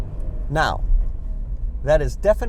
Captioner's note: car screeching